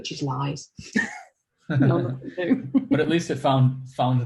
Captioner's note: laughs